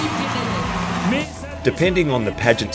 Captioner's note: audience cheering